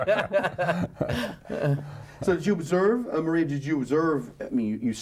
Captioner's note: laughs